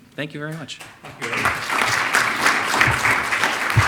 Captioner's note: audience clapping